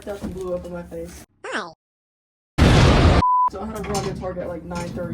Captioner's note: hi roblox sound effect; explosion sound effect